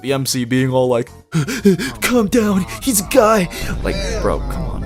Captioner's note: panting